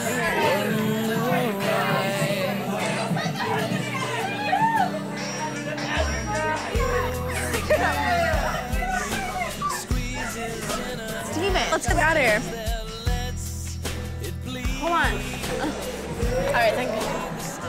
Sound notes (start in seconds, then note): 3.0 people chattering and cheering